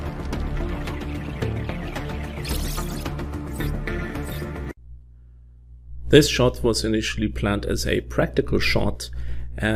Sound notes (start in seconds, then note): 2.3 machine beeping